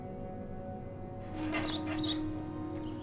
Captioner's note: birds twittering